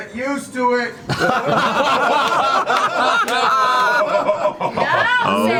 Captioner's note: all laugh